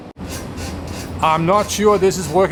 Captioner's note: metal chair creaking